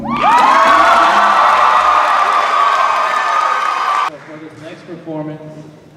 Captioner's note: cheers and applause